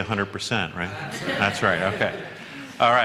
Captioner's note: laughter